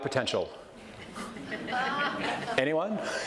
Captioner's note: audience laughs